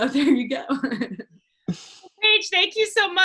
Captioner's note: laughter; chuckles